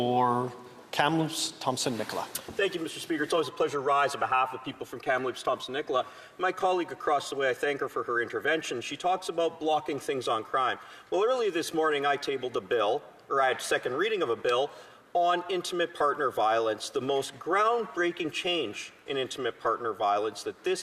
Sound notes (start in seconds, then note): 3.0 speaking French